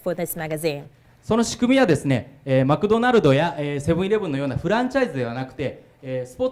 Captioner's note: speaking foreign language